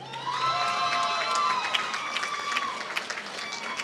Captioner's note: applause